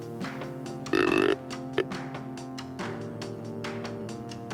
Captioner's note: deer call